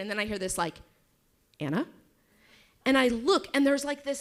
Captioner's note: none